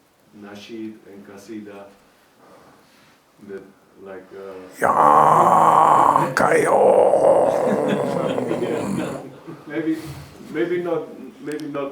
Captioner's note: imitating a low, distorted rock singer voice